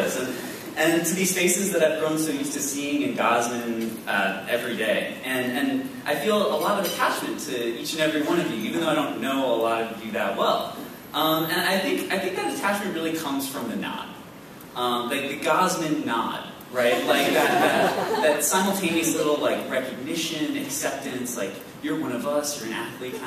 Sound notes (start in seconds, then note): 16.9 laughs